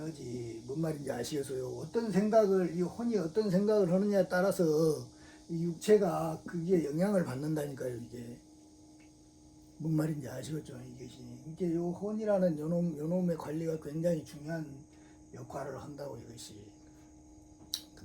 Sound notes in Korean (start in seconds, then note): none